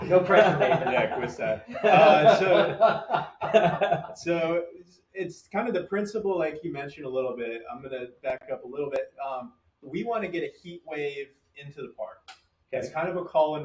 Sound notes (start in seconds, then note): 1.7 engineers laughing